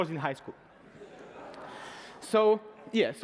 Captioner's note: laughter